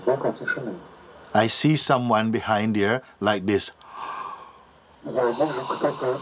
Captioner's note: yawning